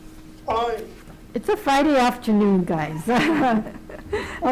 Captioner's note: laughs